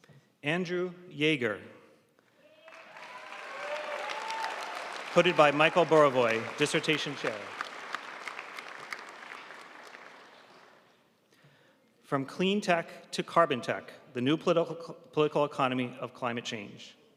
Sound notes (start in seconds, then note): 3.2 audience cheering and applauding